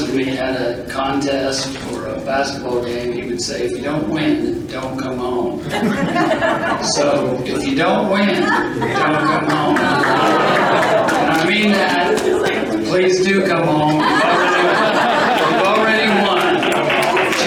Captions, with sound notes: and me had a contest or a basketball game, he would say, if you don't win, don't come home. (group laughing) So if you don't win, don't come home. I mean that, please do come home. You've already won.